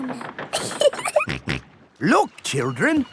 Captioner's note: giggling; snorts